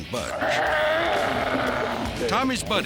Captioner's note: growling